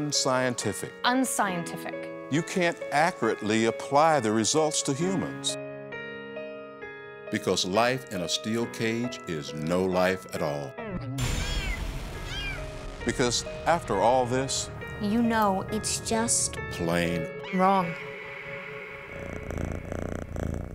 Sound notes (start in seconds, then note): 12.2 kitten Crying; 19.1 cat Purring & Dog Panting